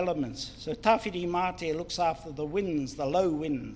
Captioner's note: speaks in foreign language